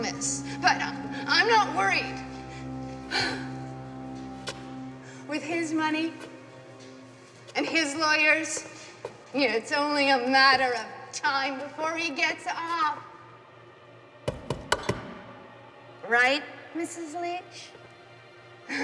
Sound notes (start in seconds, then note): 14.2 banging